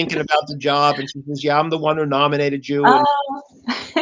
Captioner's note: laughter